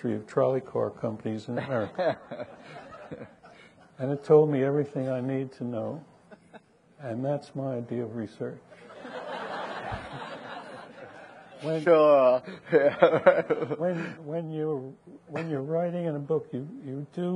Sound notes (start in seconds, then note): 1.5 people laughing; 8.8 audience laughing